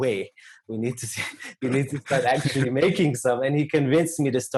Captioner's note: laugh